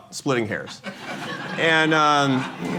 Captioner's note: laughter